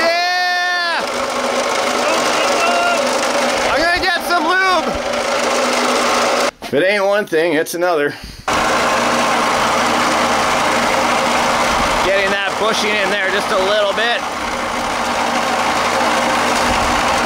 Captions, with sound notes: Yeah. (motor chugging) I'm gonna get some lube. If it ain't one thing it's another. (motor chugging) Getting that push in there just a little bit.